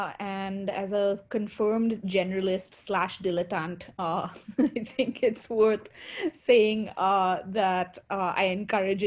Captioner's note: laughter